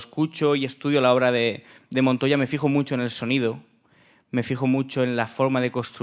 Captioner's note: speaking in Spanish